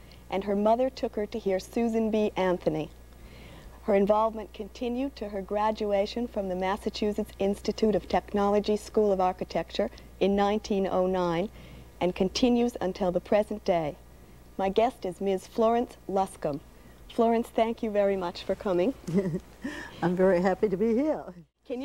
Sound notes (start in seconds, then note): 19.0 chuckles